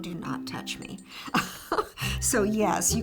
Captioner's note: chuckling